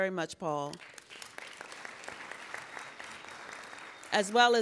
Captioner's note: applauding